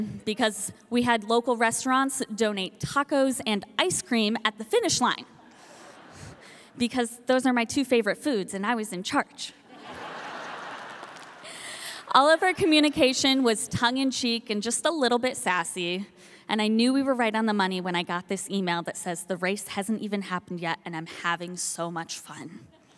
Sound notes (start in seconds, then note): 9.7 audience laughing